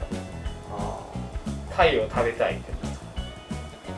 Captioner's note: laughs